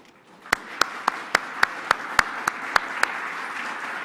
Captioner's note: all applauding